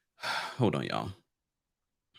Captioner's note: sighs